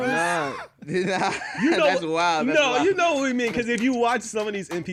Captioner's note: laughs